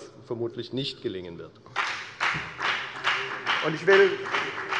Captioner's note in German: Beifall bei der FDP